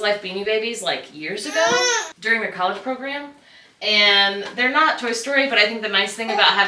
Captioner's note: baby goose noises